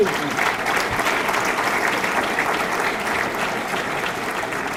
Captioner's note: audience clapping